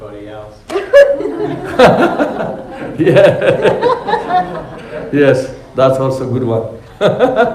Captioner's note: laughing